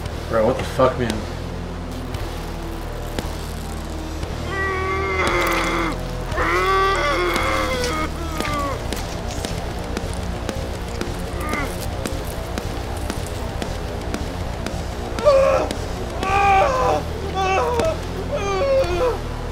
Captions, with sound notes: Bro what the fuck man... *fabric ripping* *squelching* *fleshy peeling* *screaming in agony*